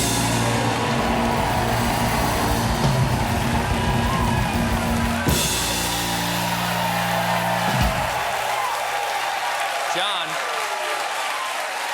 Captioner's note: cheers and applause